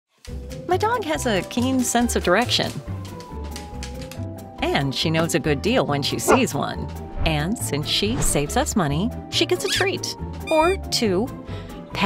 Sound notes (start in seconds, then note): 2.5 bright gentle music; 6.2 dog barking